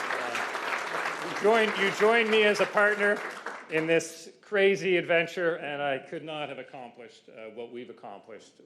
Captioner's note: cheers and Applause